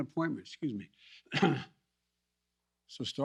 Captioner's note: coughs